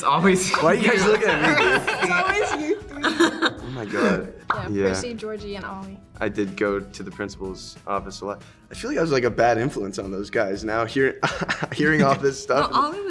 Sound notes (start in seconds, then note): 0.5 laughing; 3.5 Joy and Hunter laugh